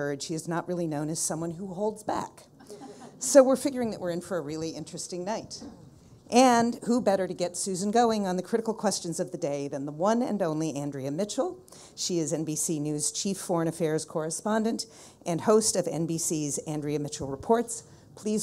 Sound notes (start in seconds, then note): 2.6 people laughing